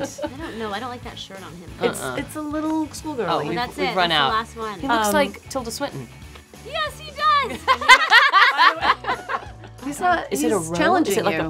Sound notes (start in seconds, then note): 7.4 laughing